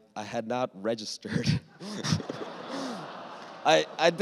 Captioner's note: laughter